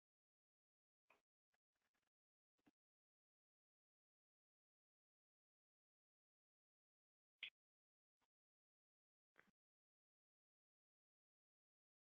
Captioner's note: silence